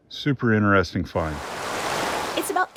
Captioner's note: water splashing